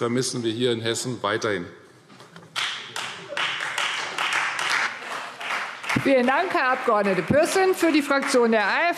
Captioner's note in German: Beifall Freie Demokraten